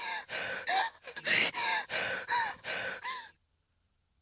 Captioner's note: gasping